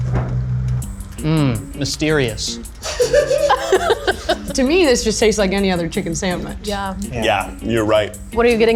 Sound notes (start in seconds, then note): 2.8 all laugh